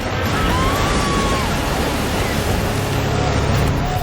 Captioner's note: woman screams